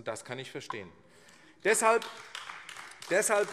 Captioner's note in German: Beifall AfD